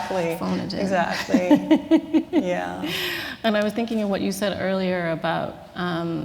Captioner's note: laughter